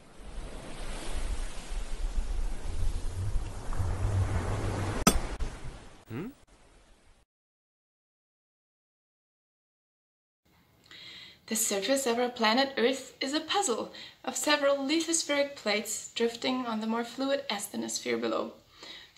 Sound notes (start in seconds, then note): 0.0 ocean sounds; 5.0 pickaxe hits stone